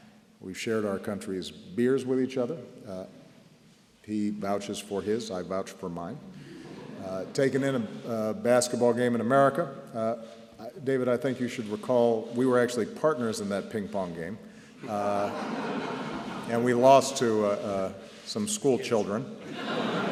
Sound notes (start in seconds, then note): 6.5 laughter; 14.8 laughter